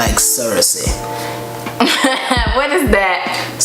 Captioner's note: laughs